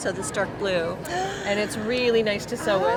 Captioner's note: gasps